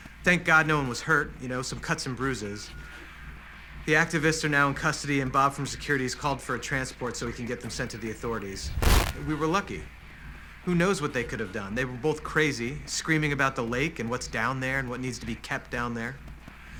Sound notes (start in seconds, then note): 8.5 static